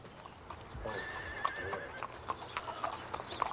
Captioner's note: horse neighing